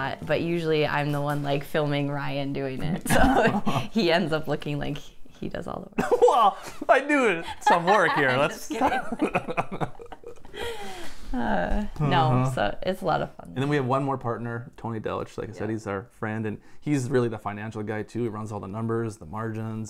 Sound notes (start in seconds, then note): 6.0 laughs; 9.1 laughter